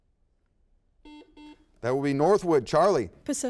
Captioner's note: buzzer beeps